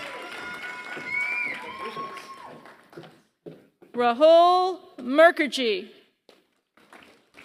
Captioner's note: applause; applause